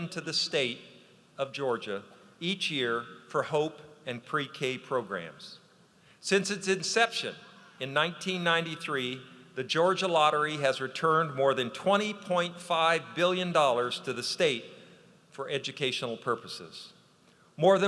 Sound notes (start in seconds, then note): none